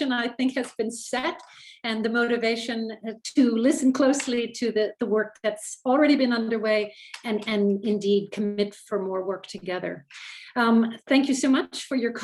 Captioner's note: French language